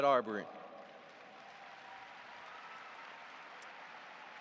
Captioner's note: audience applauding